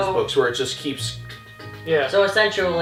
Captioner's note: stepping noises